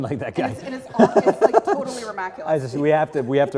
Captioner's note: laugh